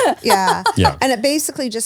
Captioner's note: laughs